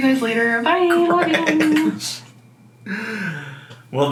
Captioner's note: laughing